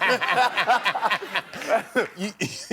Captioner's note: laughter